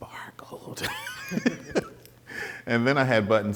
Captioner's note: both laughing